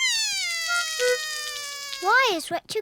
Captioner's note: cries